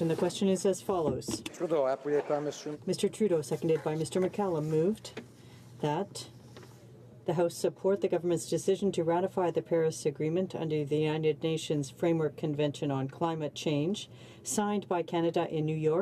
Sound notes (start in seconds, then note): 1.2 speaking in french